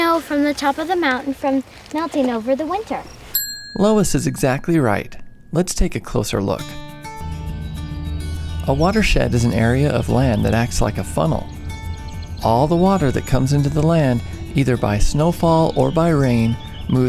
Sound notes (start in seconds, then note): 3.3 bell dinging; 7.1 gentle music